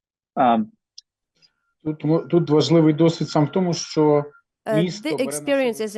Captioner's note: non-english speech